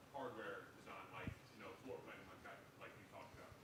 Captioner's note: speaks faintly